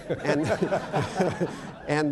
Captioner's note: laughter